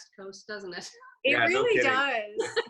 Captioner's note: chuckles